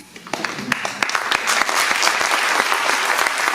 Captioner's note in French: Applaudissements